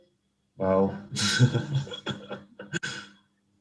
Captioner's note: laughs